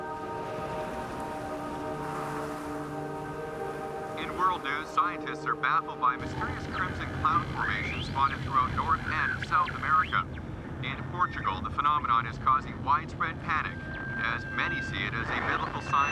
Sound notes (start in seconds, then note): 1.6 wind whooshing; 3.9 man on radio